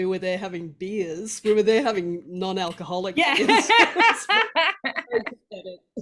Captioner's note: both laugh